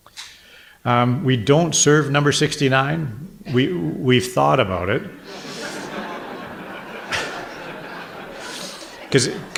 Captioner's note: audience laughter